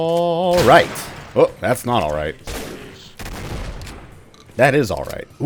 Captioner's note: bam